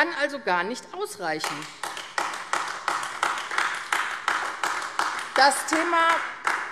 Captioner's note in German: Beifall AfD